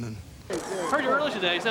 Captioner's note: camera shutter clicks